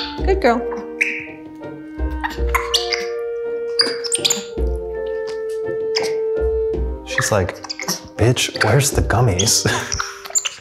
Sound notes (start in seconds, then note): 0.0 monkey clicks and squeaks loudly; 3.6 monkey noises continue; 6.0 soft music